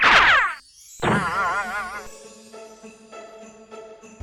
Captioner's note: object boings